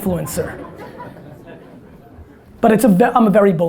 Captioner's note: audience laughter